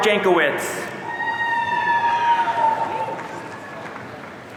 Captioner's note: audience cheering